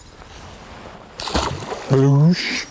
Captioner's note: splash